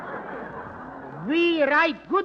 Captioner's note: laughter